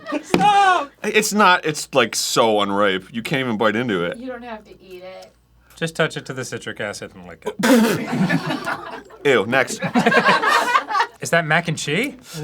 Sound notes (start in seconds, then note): 7.6 sputtering